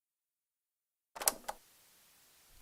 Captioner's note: cassette noise